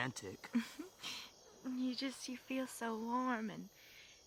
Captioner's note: giggles